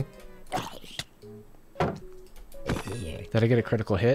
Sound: zombie gurgling

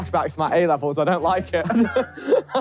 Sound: laughing

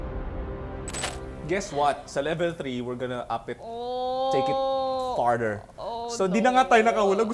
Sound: groans

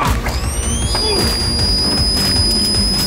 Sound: gunfire; shrieker sounds

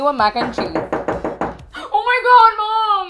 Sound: door knocks in intrusive Cuban mom Spanish

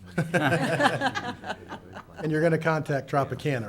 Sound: laughing

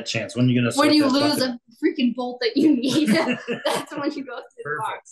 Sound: laughs

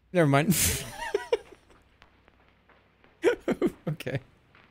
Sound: laughs

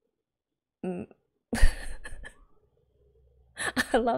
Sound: laughs

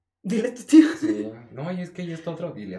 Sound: laughs

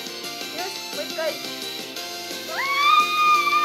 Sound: screams

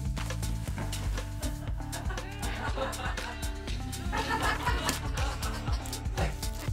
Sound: laughs

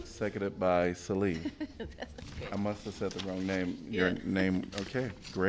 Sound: laughter

